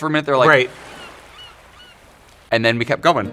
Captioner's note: sea gulls singing